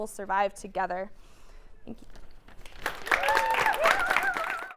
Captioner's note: applause